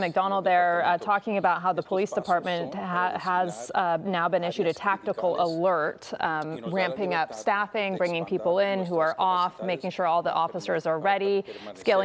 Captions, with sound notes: [SPEAKING SPANISH] WE HAVE BEEN LISTENING TO A PRESS CONFERENCE YOU JUST HEARD FROM LOS ANGELES POLICE CHIEF JIM McDONNELL THERE TALKING ABOUT HOW THE POLICE DEPARTMENT